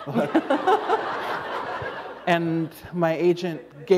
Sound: laughter

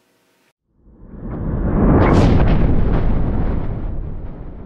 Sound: thunder

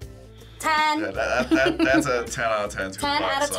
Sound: chuckles

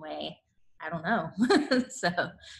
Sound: laughs

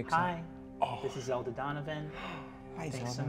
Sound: gasps

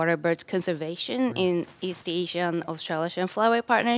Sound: foreign words

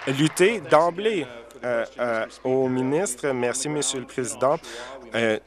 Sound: applause

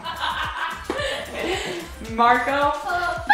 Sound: laughing

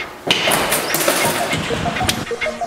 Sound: door opens

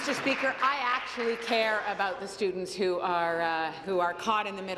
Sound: applause

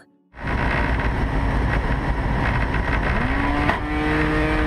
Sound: propeller whirring

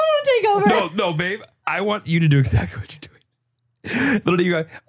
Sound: laughs

